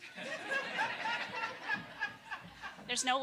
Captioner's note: audience laughing